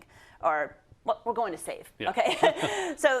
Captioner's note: laugh